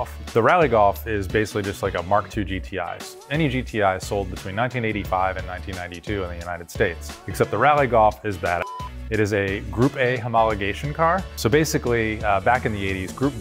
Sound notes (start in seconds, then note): 8.6 beep